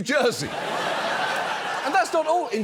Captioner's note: studio audience laughs